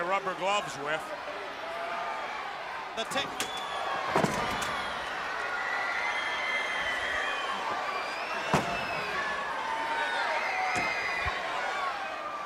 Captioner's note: crowd cheering